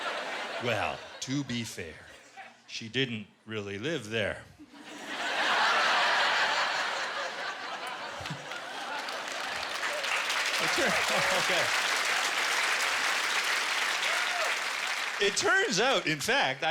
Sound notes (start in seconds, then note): 4.6 laughter; 9.7 applause